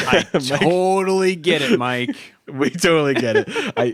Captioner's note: laughs